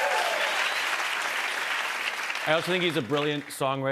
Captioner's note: cheers and applause